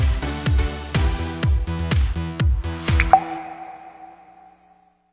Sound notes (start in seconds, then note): 0.3 upbeat music; 2.9 water drops